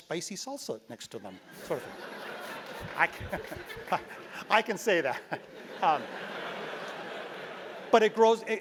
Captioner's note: laugh